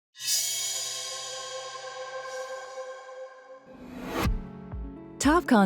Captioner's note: whooshing